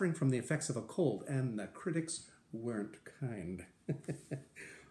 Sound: laughter

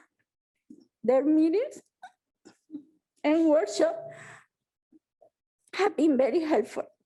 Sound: sobs

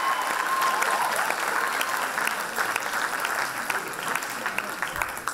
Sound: loud applause and cheers

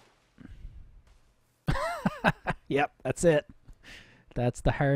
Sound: laughing

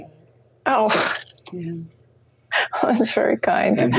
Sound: laughs

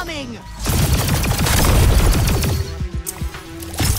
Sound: gun firing

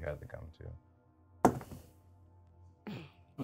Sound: die thuds

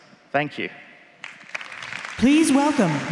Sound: applause

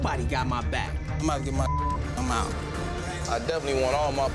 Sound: beep

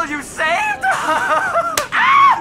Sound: slap

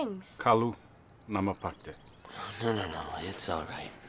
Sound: speaking in foreign language

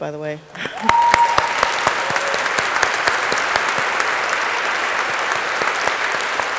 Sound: audience applauding; audience cheering

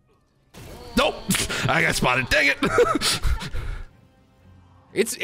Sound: laughs

